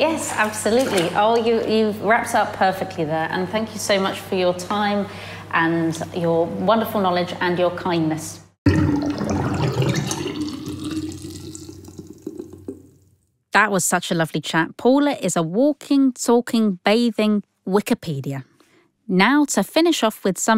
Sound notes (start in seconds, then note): 8.6 sound of water draining down plughole